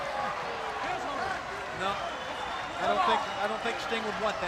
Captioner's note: crowd chatter